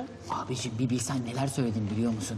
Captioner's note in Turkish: none